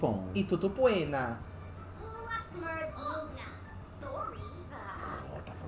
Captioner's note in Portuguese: Sims conversam